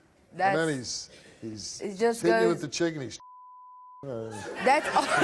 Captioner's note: beep; laughs